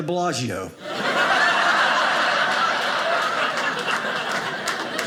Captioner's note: audience laughing